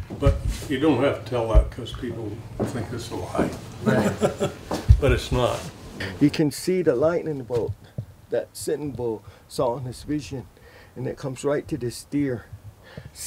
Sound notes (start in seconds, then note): 3.8 he laughs